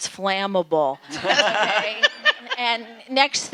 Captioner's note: audience laughing